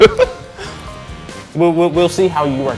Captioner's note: laughing